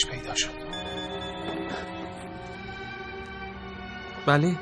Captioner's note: mobile ringing